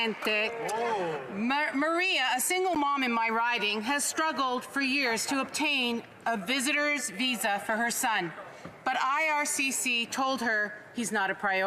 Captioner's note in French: voix de l'interprète